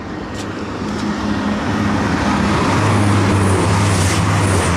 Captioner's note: train roaring